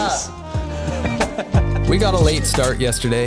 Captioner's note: laughing